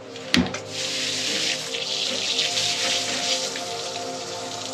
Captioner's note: water spraying